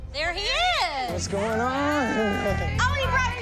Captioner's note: laughing